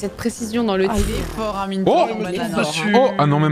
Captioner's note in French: pffft